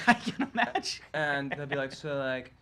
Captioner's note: chuckles